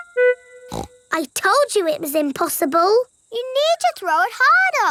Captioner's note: snorts